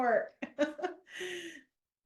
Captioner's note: laughs